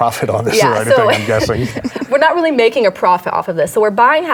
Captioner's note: laughs